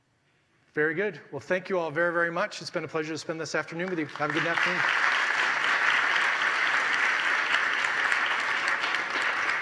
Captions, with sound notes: Very good. Well, thank you all very, very much. It's been a pleasure to spend this afternoon with you. Have a good afternoon. (audience applauding)